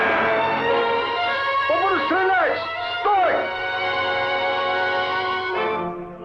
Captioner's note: soldier yelling in Russian